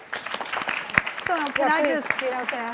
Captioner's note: applauding